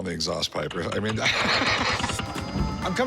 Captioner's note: laughs